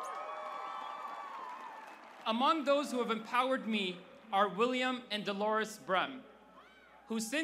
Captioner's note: cheers